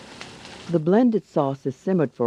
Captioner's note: voiceover